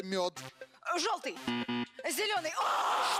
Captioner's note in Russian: пи-пи